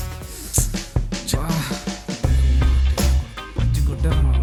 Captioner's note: Grunting noise by Krishna and Vinay because of police beating